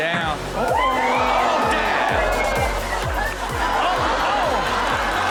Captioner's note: upbeat techno music; audience exclaiming; audience laughing